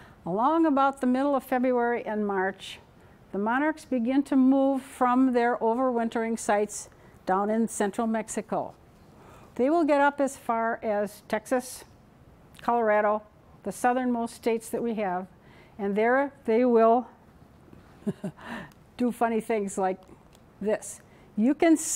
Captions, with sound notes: Along about the middle of February and March, the monarchs begin to move from their over wintering sites down in central Mexico. They will get up as far as Texas, Colorado, the southernmost states that we have, and there they will [laughing] do funny things like this. You can see.